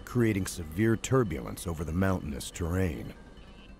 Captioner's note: voiceover